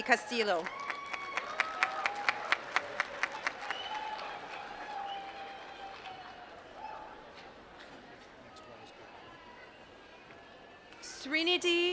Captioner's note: applause